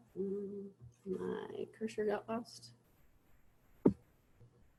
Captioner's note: humming